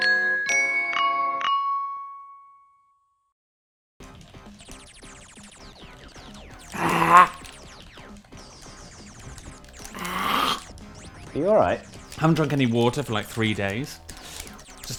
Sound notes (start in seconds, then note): 6.7 gagging